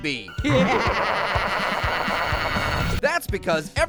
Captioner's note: evil laughter